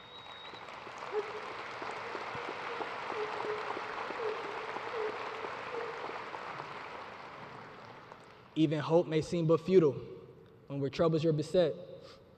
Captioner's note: cheers and applause